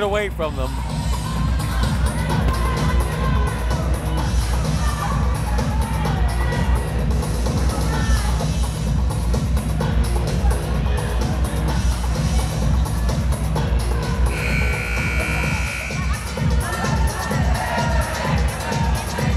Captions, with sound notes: and then they let it get away from them. (intense music) (buzzer blaring)